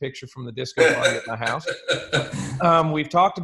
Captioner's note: laughs